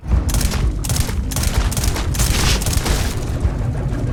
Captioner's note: gun firing; suspenseful music